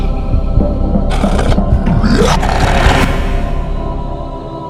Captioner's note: snarling